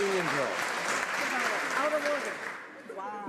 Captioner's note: some Applause